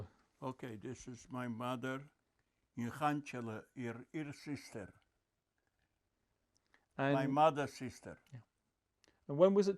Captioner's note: non-english